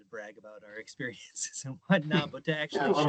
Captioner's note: chuckling